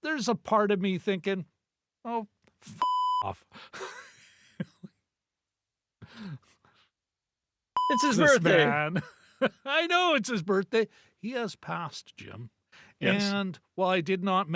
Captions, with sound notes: there's a part of me thinking, oh, (beep) off. (laughing) It's his birthday. It's his man. I know it's his birthday. He has passed, Jim. And while I did not